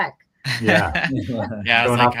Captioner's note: laughs